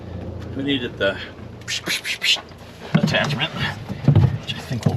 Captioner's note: imitates air compressor